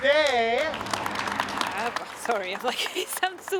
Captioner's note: applause